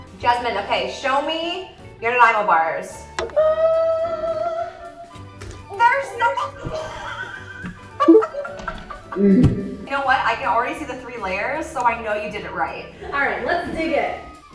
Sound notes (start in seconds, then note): 6.4 laughs; 6.5 gasps